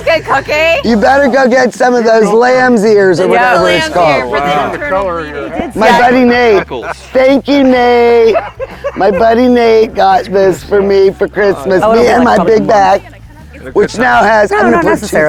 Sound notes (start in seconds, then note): 6.5 laughing; 8.7 all laughing